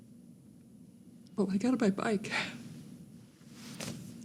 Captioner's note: voice breaking